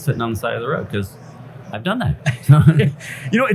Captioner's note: laughs